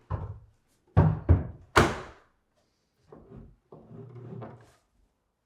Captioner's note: cabinet thudding